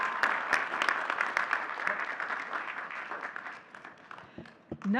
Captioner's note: audience cheering and clapping